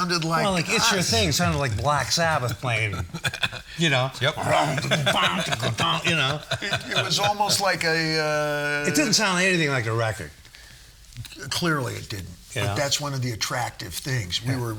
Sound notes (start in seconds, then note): 4.5 imitating dark guitar; 7.4 all laughing